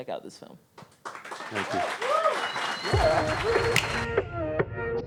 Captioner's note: audience claps